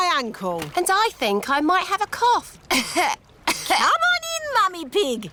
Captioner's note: coughs